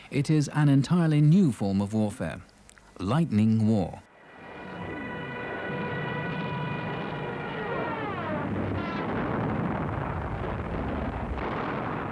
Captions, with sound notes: It is an entirely new form of warfare. Lightning War. (plane flies overhead) (bomb explodes)